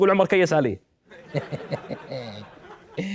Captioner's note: evil laugh